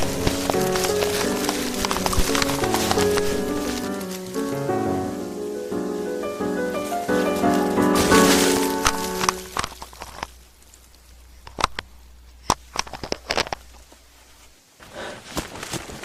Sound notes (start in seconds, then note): 6.5 squelching